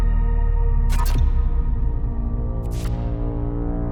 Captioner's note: buzzing